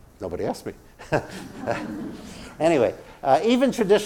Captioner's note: laugh